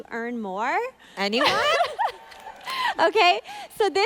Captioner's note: laughing